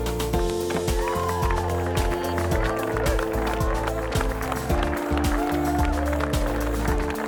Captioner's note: clapping